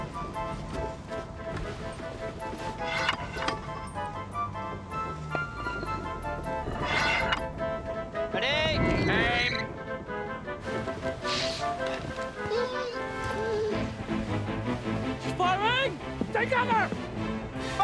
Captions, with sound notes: (dramatic music) - Ready! - Aim! (Patch whining) - She's firing! - Take cover!